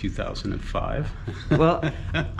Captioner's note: laughs